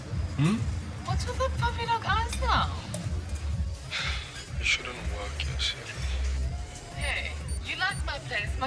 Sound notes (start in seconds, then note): 4.6 Lukas over radio